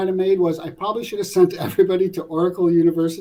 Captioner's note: laugh